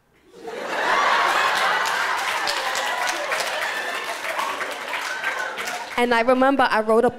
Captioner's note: laughter